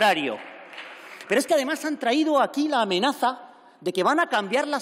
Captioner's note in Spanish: Aplausos